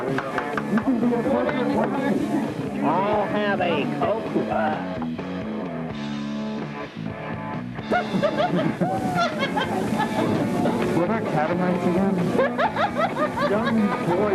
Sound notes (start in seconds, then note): 7.8 laughter